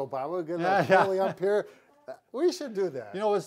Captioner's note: laughs